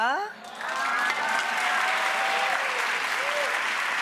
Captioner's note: applause